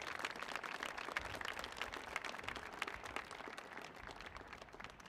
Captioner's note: audience applauding